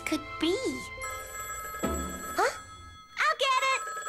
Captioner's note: ring!